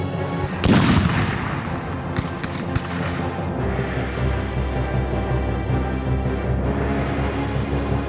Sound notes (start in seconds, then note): 0.2 cannons booming; 4.1 intense music continues